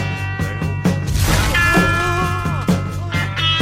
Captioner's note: house Blows Up